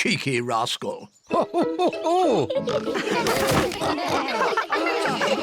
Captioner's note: all laughing